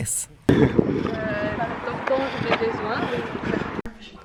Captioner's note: people speaking French in the backround